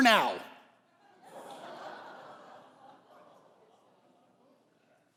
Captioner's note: congregation laughing